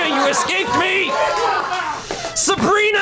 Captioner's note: colleagues laughing